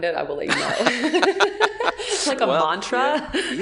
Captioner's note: laughing